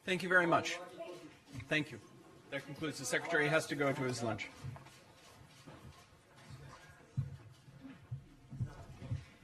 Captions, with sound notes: - Thank you very much. Thank you. That concludes, the Secretary has to go to his lunch. (cameras clicking)